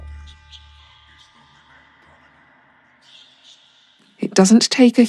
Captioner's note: whispering